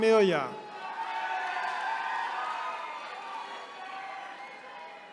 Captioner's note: attendees cheering